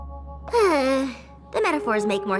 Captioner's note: sigh